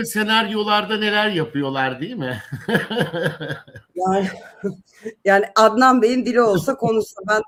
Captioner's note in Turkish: kahkaha